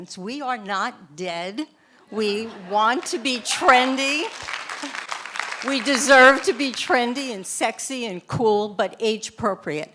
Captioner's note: laughter from audience